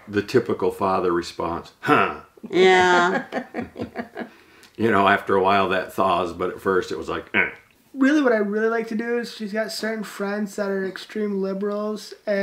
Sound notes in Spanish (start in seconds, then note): 1.9 gruñidos; 2.9 Risas; 7.3 gruñidos